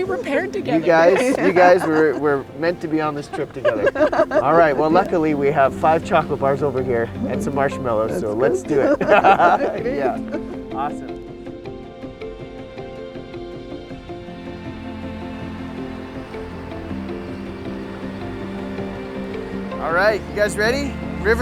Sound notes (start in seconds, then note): 9.5 all laughing; 11.7 mellow music